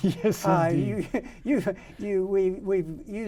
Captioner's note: men laughing